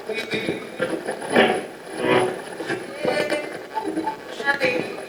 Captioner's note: radio channel changing